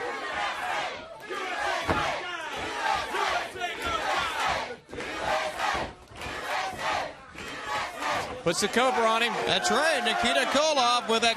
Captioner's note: crowd chatter; crowd cheering